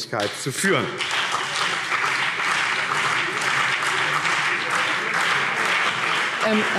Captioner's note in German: Beifall BÜNDNIS 90/DIE GRÜNEN und CDU